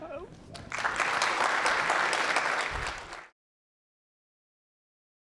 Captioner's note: applause